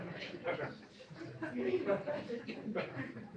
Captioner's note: laughter